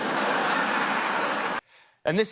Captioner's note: laughter